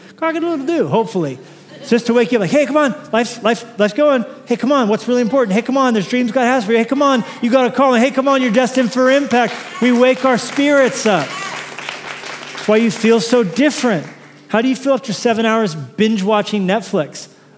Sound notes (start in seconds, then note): 11.4 applause